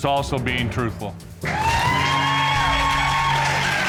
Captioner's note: audience cheers